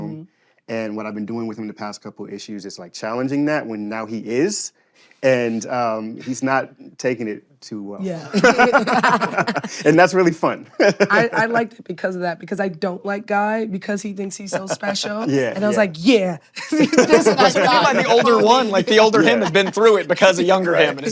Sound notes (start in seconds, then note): 8.2 laughter; 10.7 laughs; 14.4 laughter